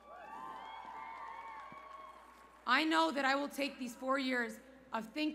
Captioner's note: cheers